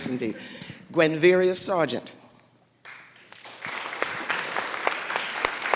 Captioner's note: laughter